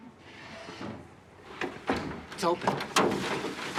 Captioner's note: window opens